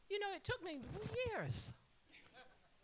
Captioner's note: laughter